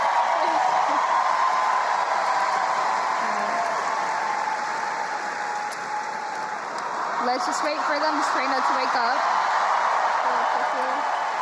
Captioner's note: crowd cheering